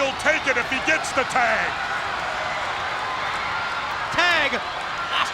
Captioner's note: crowd cheering